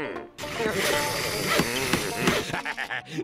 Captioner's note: pounding, sawing